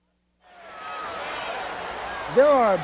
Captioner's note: audience cheers